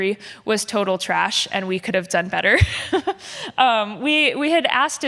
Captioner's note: laughs